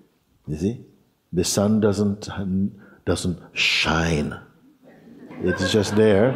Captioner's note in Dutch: gelach